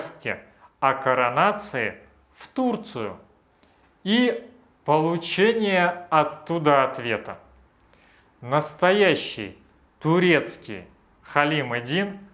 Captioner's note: Turkish